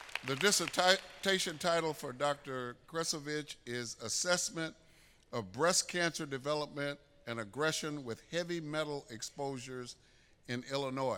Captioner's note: applause